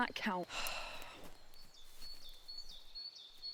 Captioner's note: Jim sighing; birds chirping